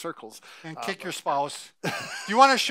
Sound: laughing

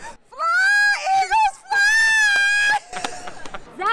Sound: shouting

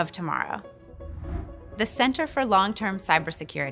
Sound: air whooshing

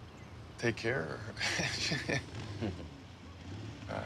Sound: chuckling

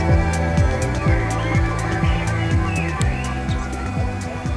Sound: birds twitter

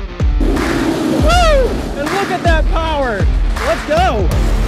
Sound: coaster roaring

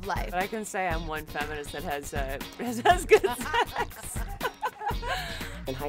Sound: laughs

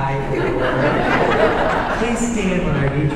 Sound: audience laughing

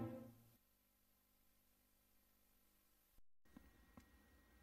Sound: silence

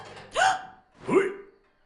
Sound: gasps

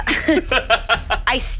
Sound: laughing

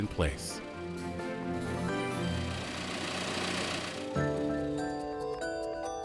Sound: engine rumbling

